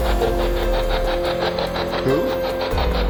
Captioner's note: disembodied Voice